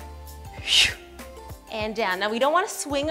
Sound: breathing out

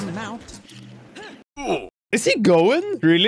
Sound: ugh!

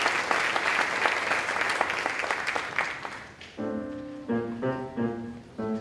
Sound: applause

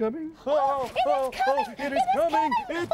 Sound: frantically

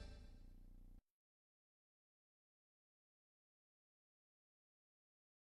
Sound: silence

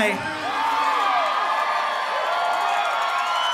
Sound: crowd cheers

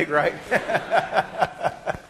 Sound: laughter

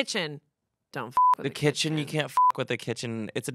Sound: beep

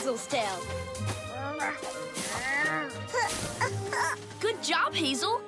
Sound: Hazel grunting

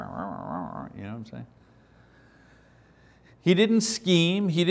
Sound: growls

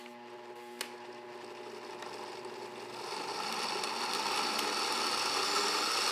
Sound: whirring slowly; whirring quickens

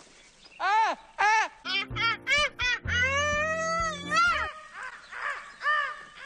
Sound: mix of Benedick's "bird call" and Cool Cat's laugh

